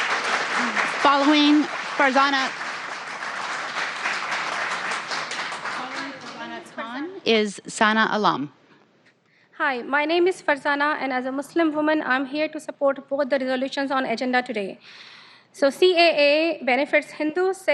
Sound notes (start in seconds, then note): 3.1 applause